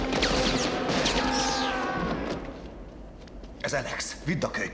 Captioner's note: screaming